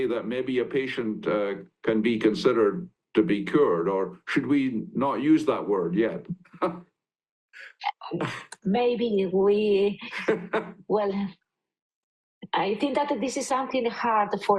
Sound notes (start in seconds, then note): 7.7 chuckles; 10.1 chuckling